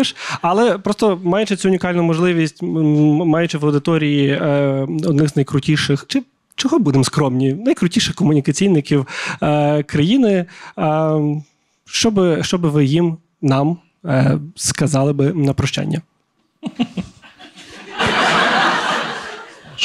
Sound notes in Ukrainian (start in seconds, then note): 16.6 Буданов хихикає; 16.6 зал сміється у відповідь